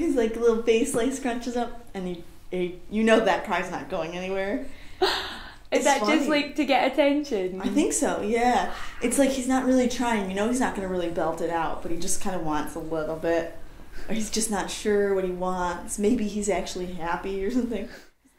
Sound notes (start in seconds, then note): 5.4 laughs